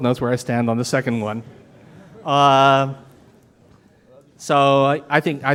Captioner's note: audience murmuring